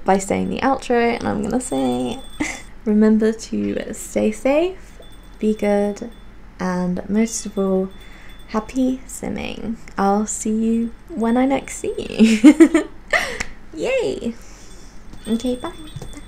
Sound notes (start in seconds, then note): 12.2 giggles; 13.2 whispering